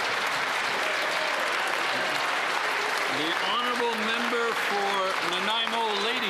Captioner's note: cheering and Applause